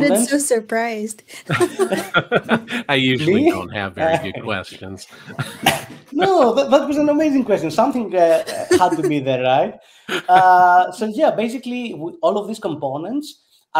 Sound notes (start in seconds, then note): 1.4 group laughing